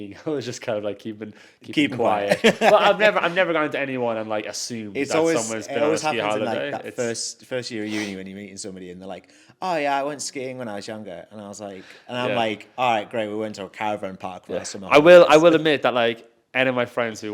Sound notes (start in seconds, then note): 2.0 laughs